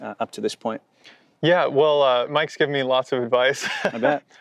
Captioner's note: chuckling